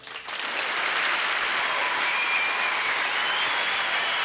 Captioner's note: cheering